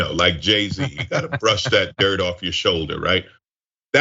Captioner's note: laugh